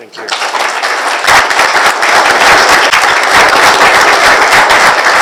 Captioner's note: applause